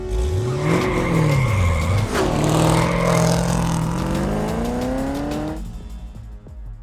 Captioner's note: engine roaring; dramatic music; tires squealing